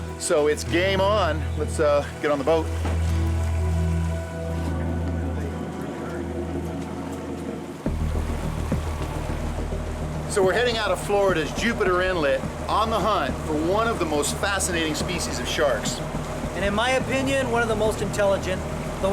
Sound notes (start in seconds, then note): 5.0 boat engine whirring